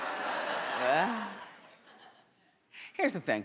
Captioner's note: audience laughing